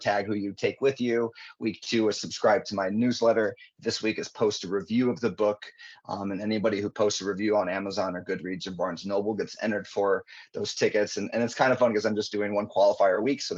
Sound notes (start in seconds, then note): none